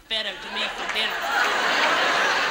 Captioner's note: audience laughs